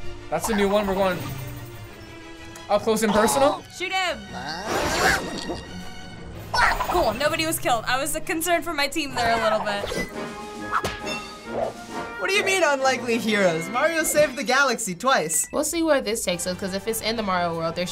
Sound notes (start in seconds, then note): 6.5 Rabbid exclaiming; 10.4 upbeat music